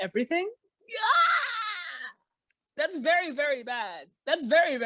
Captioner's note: shrieks in uncomfortable concern